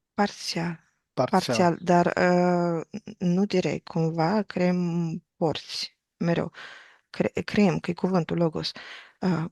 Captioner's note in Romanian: voce dreasă